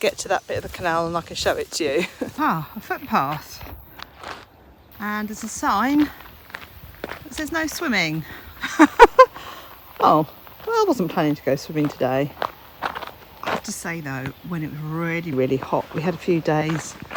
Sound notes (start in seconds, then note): 8.2 laughs